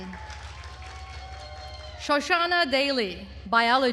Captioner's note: attendees cheering and applauding